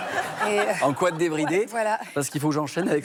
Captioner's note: laughter